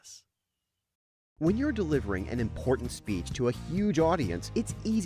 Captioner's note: voiceover